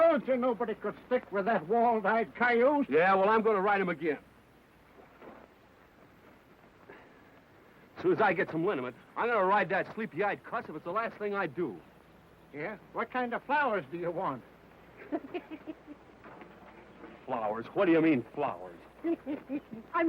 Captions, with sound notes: I told you nobody could stick with that walled-eyed coyote. - Yeah, well, I'm gonna ride him again. As soon as I get some linament, I'm gonna to ride that sleepy-eyed cuss if it's the last thing I do. - Yeah, what kind of flowers do you want? (Baldy laughs) - Flowers, what do you mean, flowers?